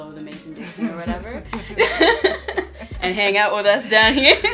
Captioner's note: laughter